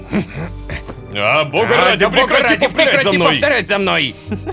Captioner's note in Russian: хором